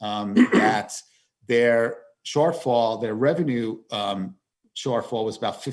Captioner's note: chair clears throat